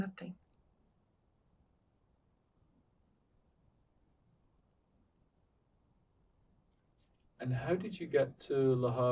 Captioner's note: pauses 6 seconds